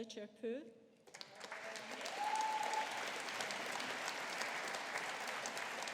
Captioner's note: audience applauding